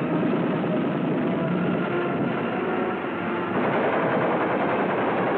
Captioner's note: war sounds